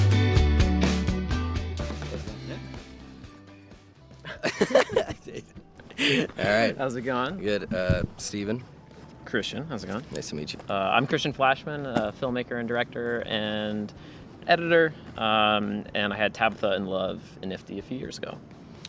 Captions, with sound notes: (both laugh) - All right. - How's it going? - Good. Steven. - Christian. How's it going? - Nice to meet you. - I'm Christian Flashman, a filmmaker and director and editor, and I had "Tabitha in Love" in NFFTY a few years ago.